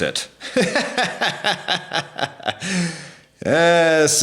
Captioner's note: laughing